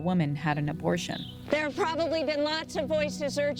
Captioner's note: soundbite of archived recording